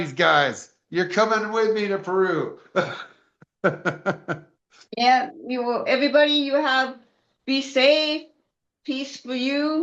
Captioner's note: laughter